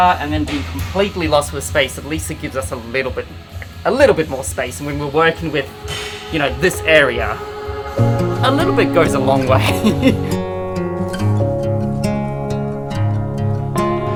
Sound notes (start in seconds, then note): 9.4 chuckles; 10.2 upbeat music